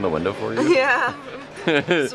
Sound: chuckling

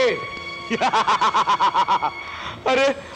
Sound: laughs

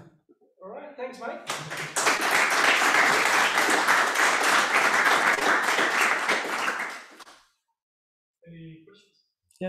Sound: applause

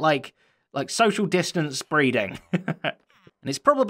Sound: chuckles

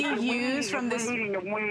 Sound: laughter

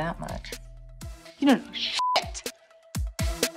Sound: beeps; upbeat techno music

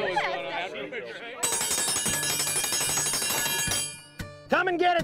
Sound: people laughing and chatting; ringing triangle dinner bell

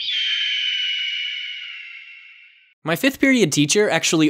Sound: eagle screech

